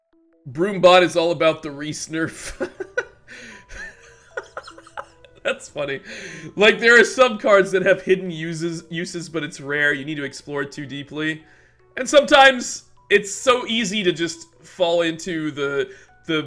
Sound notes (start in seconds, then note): 3.7 laughs